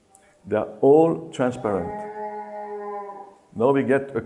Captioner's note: cow mooes in background